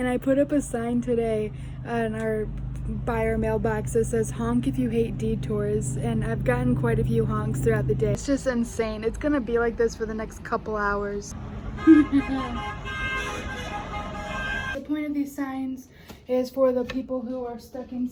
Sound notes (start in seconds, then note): 11.4 honk honk honk honk